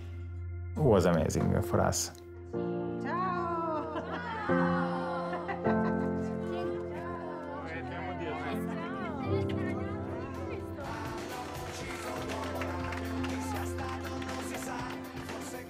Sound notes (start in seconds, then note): 5.6 indistinct chatter; 10.6 upbeat music